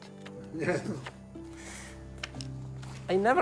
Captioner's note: laughs